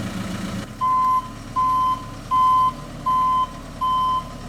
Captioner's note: machinery rumbling; truck beeping